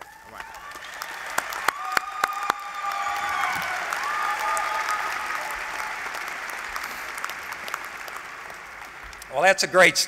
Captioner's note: applause